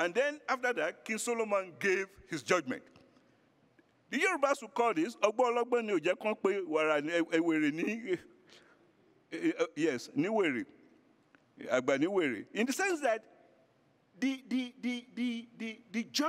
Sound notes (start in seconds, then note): 5.4 speaking foreign language